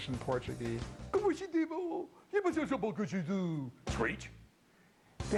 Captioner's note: imitating french